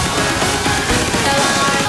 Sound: echo

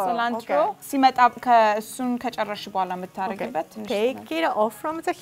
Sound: speaking Amharic

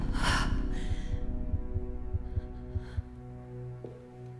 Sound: Elizabeth sighs

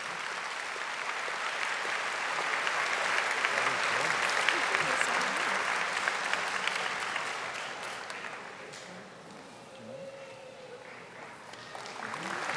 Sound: audience applauding

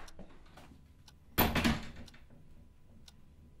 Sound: door clicks shut; clock ticking

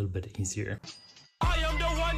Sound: cash register rings

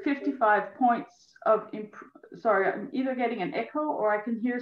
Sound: phantom sound coming through broadcast

